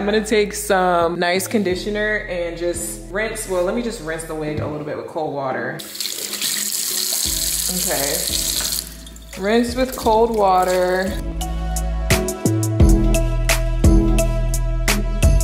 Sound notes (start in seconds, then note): 5.8 water splashing; 12.0 lo-fi hip hop music